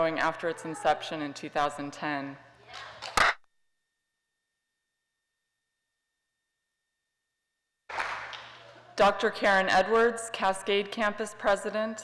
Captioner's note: applause